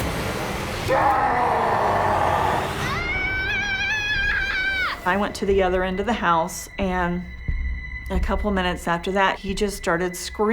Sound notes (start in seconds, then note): 0.1 demonic scream; 0.8 screams